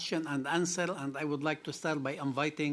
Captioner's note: speaking French